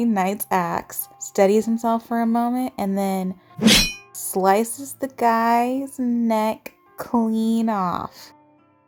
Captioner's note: axe whooshes